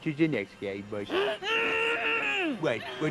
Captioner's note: muffled shouting